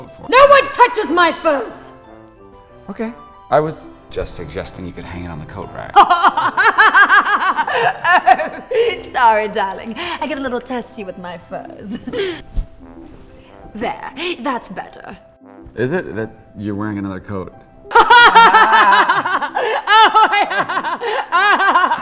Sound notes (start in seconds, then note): 6.0 laughing; 18.0 laughing